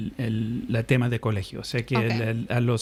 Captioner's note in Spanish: Hablando ingl\s